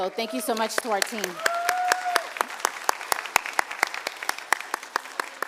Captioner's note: cheers, applause